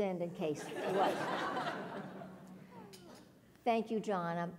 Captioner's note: laugh